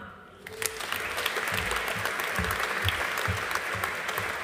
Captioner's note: audience applauding